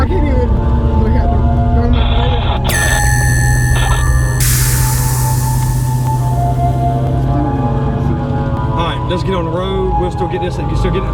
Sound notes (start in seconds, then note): 2.7 eerie music; 2.8 static buzzing